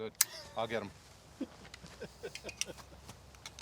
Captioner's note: knife clicks